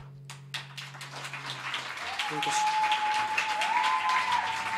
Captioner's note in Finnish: Aplodeja